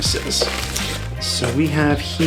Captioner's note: rustling